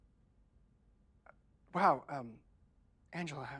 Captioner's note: none